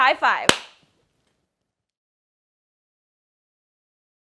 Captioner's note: hands smacking